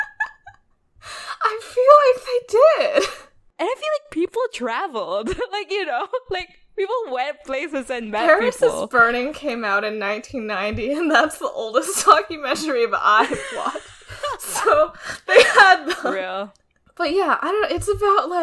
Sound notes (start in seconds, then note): 0.0 laughing; 5.0 laughs; 13.1 both laugh